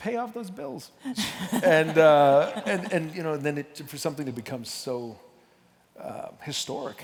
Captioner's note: laughter